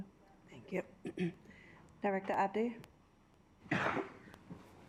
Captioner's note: clears throat